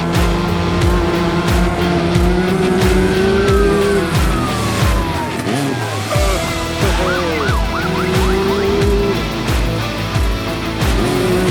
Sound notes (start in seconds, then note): 2.3 police Siren Wailing; 6.1 man Laughs Excitedly